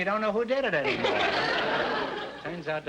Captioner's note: audience laughter